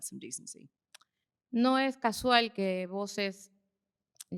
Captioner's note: speaking spanish